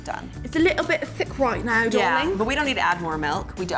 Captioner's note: cockney accent